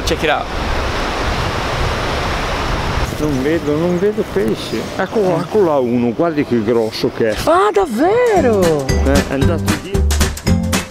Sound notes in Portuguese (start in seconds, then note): 3.0 falando italiano